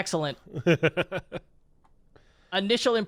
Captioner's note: laughs